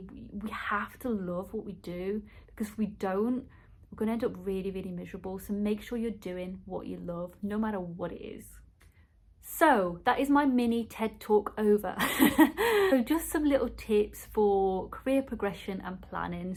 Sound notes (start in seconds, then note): 12.0 laughs